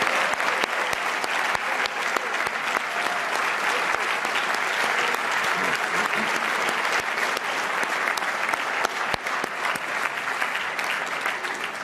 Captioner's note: cheers and applause